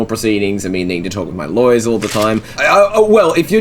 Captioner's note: paper being moved quickly